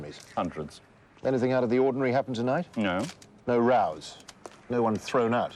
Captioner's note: none